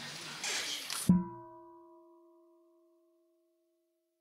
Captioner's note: half bell